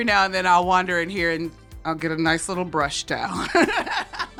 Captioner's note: laughs